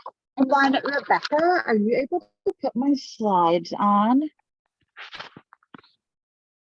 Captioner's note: audio muffing